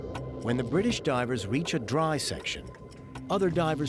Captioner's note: none